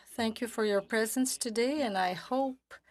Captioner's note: speaking French